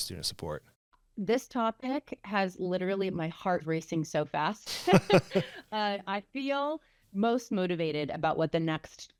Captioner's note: laughter